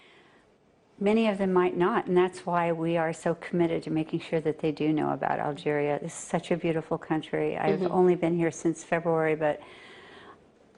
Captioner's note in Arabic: تتحدث الإنجليزية